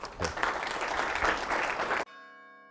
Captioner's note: applause